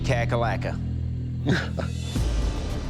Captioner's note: laughs